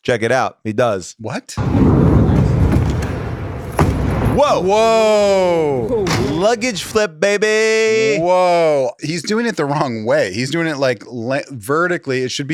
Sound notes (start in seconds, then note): 1.6 wheels rumble; 1.6 wheels thud